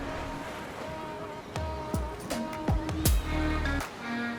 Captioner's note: waves crashing